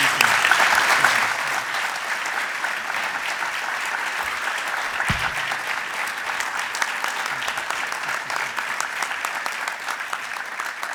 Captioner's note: applause